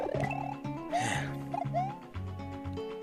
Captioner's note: sigh